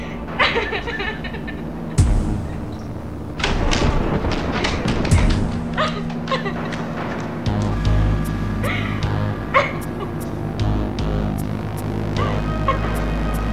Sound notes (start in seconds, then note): 3.2 falling down stairs; 7.3 tense music; 8.6 Rachel sobbing